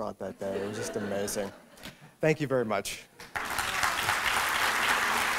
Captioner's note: laughter; applause